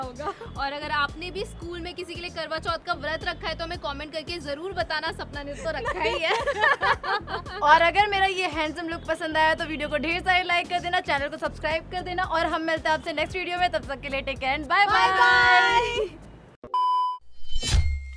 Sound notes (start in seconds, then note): 5.8 laughing